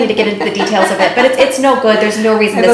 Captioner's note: laughing